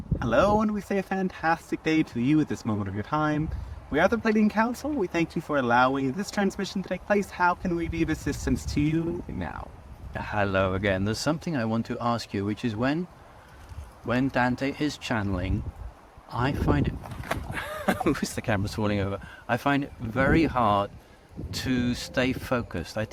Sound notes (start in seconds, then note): 17.5 laughing